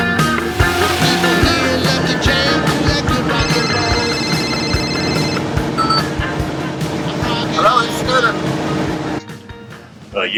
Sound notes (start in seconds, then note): 5.0 phone rings; 5.9 phone beeps